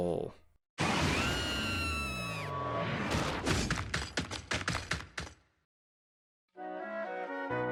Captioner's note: Kamek screams, chomping noises